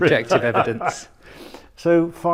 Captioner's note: laughter